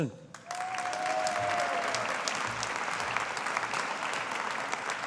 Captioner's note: audience applauding